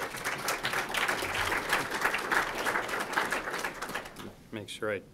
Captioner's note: group applauds